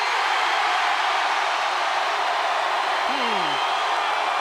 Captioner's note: crowd cheering